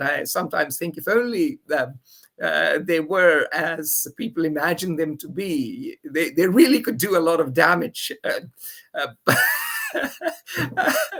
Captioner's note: laughs